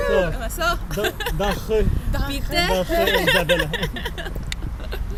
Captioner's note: thank you - pronounced in Swiss German